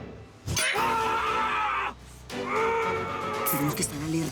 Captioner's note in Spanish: Quejidos